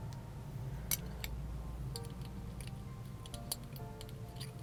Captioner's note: spoon clinking